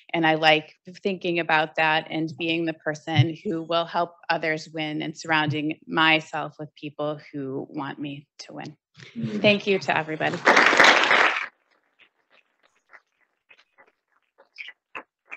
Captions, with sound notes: And I like thinking about that and being the person who will help others win and surrounding myself with people who want me to win, thank you to everybody. (audience applauding)